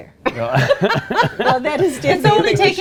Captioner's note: laughing